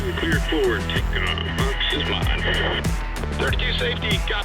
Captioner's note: speaks muffly